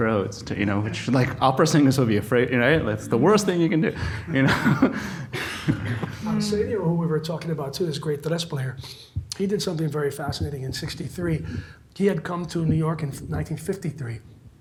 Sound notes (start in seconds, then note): 4.2 laughs